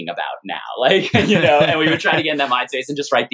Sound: laughter

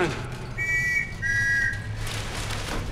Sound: whistling

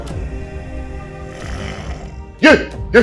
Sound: Mohuru growls

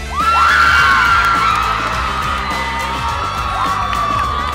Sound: yelling and cheering

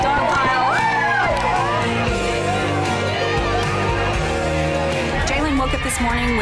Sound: cheerleaders cheering

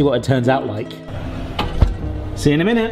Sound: door clicks

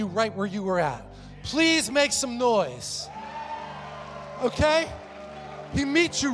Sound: congregation cheers

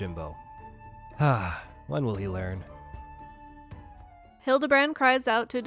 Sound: sigh

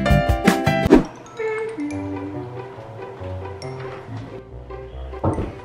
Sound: humming with pleasant music

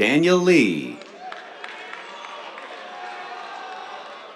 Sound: cheers, applause

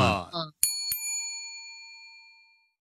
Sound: bell dings

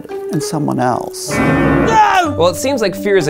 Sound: screams

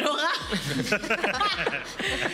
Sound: laughter

